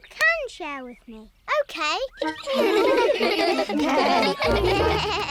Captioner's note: giggling